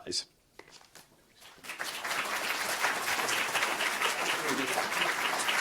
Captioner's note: audience applauding